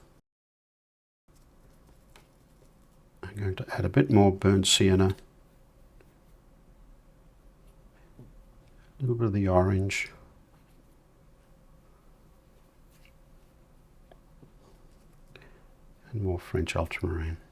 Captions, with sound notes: [silence] I'm going to add a bit more burnt sienna. [silence] A little bit of the orange. [silence] And more French ultramarine.